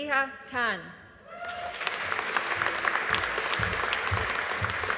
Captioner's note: audience applauding